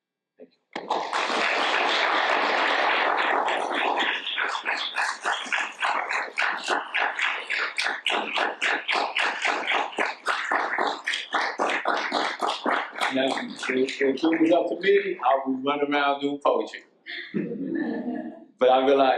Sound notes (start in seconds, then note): 2.5 audience applauds; 17.2 audience laughs